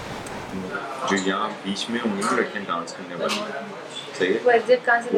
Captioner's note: in Urdu